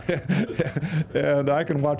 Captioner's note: all laughing